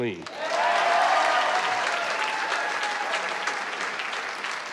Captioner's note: cheers and applause